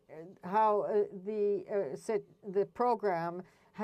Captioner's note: speaking French